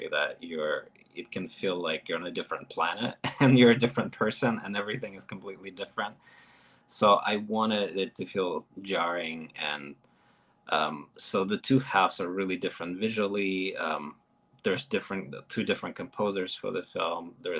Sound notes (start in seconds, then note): 3.0 chuckles